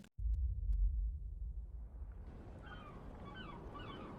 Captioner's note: birds Chirping